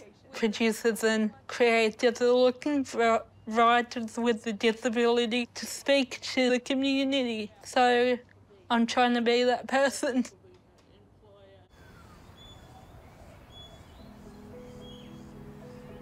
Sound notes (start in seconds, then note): 11.7 birdsong; 13.1 graceful music